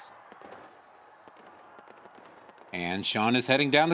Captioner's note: distant guns firing